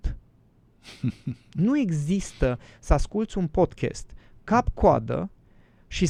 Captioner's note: laughter